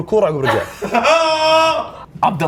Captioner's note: crew hooting